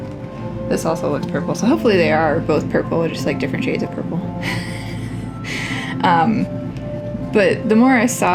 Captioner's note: laugh